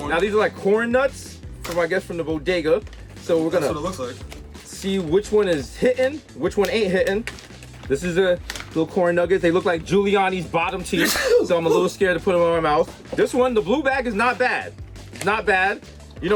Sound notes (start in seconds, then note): 10.9 Mero sneezes